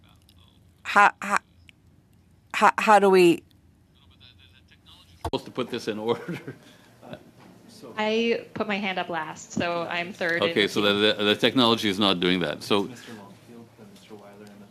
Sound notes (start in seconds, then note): 8.1 speaking French